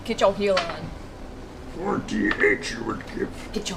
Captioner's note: Yoda voice